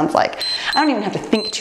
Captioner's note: timer beeps